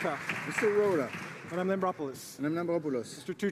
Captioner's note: applause